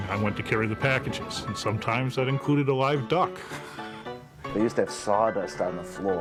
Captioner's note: laughs